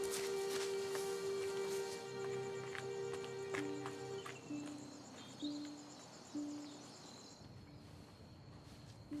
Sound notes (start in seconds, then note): 2.2 footsteps tapping